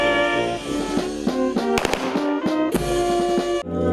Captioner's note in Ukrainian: Лунають постріли